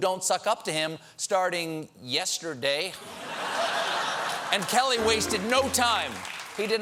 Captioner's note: laughter